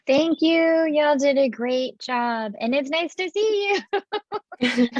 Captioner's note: laughing